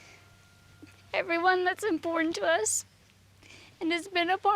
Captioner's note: tearfully